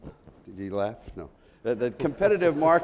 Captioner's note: laughs